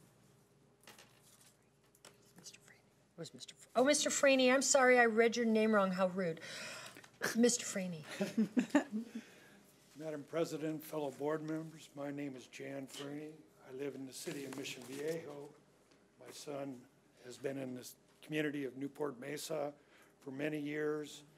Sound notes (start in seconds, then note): 8.1 women chuckling